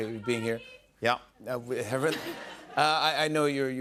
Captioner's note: laughter